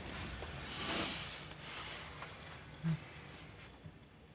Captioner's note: sighing